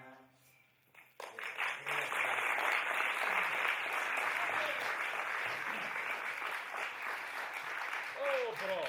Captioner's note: applause